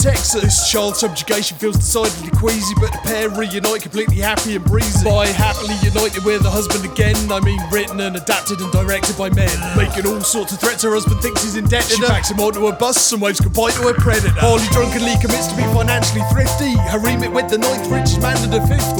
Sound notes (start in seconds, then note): 9.5 urgh